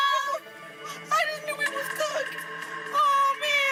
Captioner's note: crying